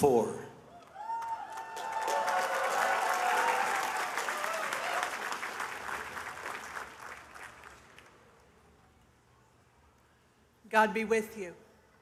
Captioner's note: applause